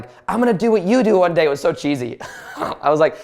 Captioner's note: laughs